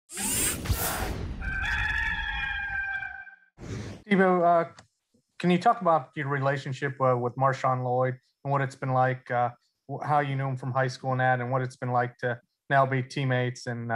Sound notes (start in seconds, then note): 0.2 logo whooshing; 1.4 rooster crowing